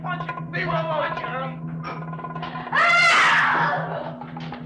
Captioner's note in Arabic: يصرخون على بعضهم البعض; يصرخ